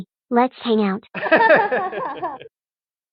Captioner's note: laughs